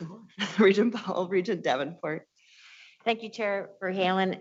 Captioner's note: laughs